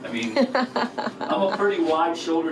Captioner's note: laughs